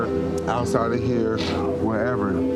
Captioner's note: sniffs